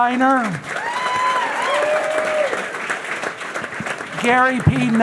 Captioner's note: audience applauding; audience cheering